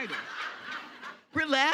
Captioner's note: audience laughing